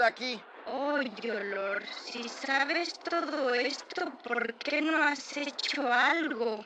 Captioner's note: in spanish